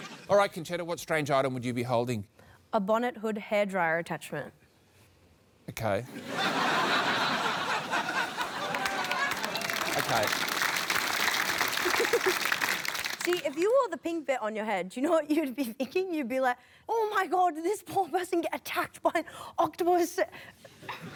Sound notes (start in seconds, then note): 6.1 laughter; 7.8 cheering, applause; 11.0 applause